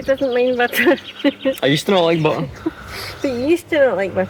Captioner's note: laughter